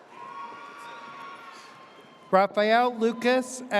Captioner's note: audience cheers